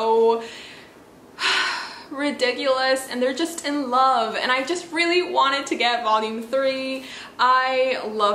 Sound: sighs

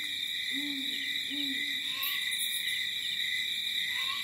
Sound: owl hooting

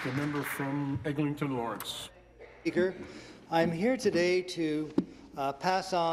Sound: some Applause

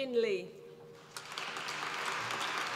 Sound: applause

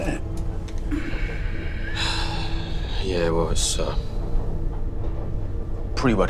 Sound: sighs

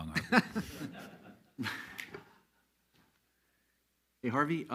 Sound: all laughs loudly

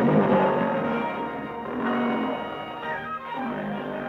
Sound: leopard roaring

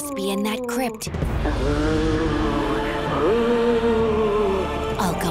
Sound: moaning

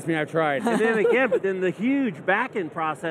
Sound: laughs

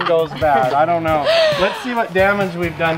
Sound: laughing

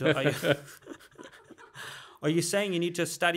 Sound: laughing

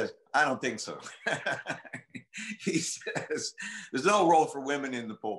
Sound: laughter

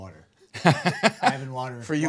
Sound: man laughing

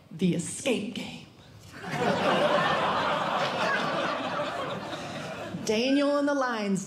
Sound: audience Laughing

